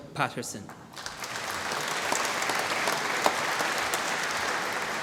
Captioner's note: applause